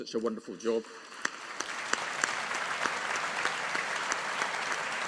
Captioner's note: audience applauding